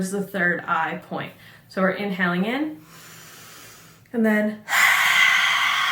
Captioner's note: sigh